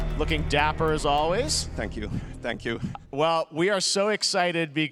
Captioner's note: applause